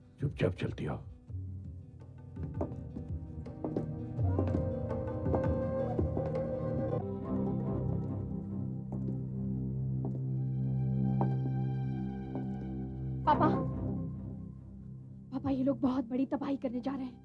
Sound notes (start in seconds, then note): none